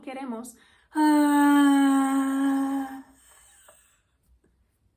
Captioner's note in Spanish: suspiro forzado